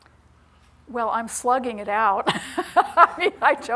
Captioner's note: laughs